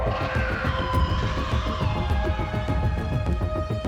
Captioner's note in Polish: krzyk